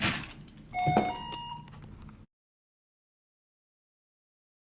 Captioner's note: machine beeping